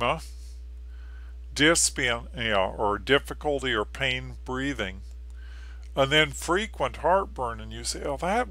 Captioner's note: difficulty or painful breathing